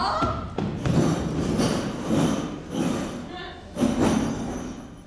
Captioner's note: objects clattering